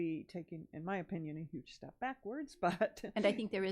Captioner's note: laughs